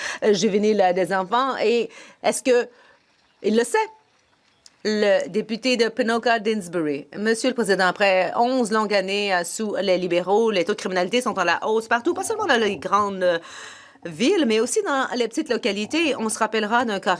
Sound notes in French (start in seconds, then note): 10.4 voix de l'interprète